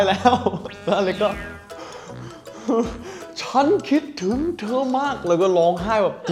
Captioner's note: sobbing